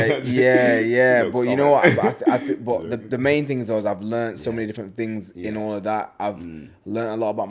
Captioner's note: laughs